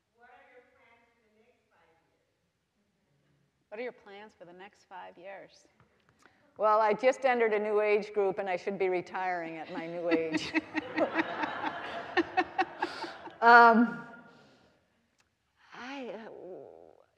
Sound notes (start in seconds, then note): 9.6 all laughing